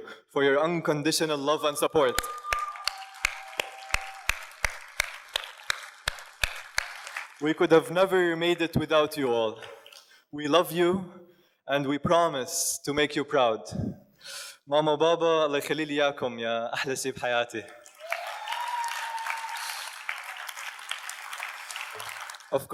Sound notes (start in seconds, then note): 2.0 audience cheers and applauds; 15.2 speaks in foreign language; 17.8 audience cheers and applauds